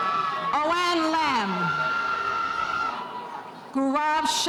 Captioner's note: spectators cheering